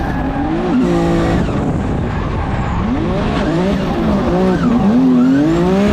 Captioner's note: tires screeching and engine thundering